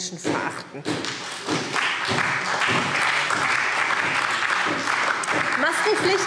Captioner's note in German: Beifall SPD und DIE LINKE